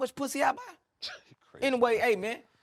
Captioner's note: scoffs